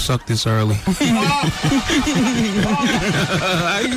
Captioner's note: laughing